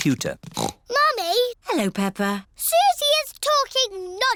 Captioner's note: snorts